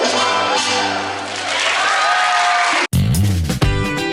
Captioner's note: cheering